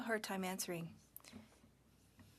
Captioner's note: speaking French